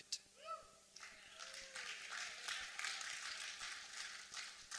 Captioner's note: applause